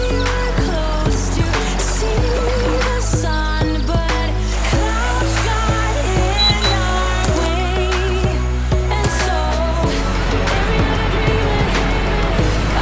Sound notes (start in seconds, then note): 5.5 birds chirping; 6.5 twigs crunching; 9.9 water crashing